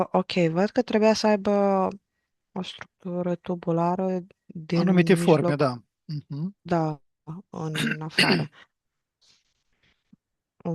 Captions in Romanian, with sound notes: Ok. Văd că trebuia să aibă o structură tubulară din anumite forme. Da. Da. în afară. [voce dreasă]